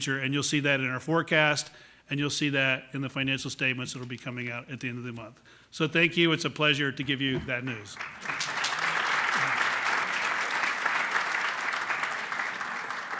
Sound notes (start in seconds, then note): 7.8 applause